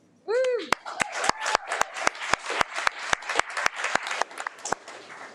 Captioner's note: audience applauding